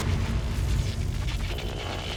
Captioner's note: thuds